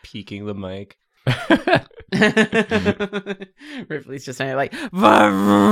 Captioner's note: laughs; laughter